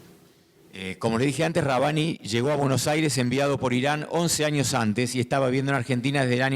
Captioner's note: speaking in foreign language